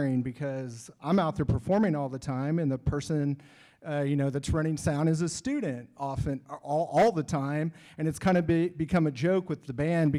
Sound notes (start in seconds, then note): none